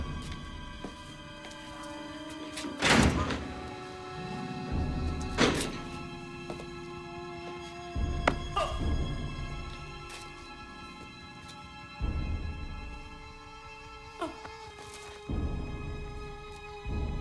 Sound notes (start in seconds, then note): 2.4 door Clanking Shut; 8.5 grunts